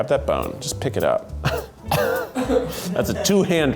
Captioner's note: laughs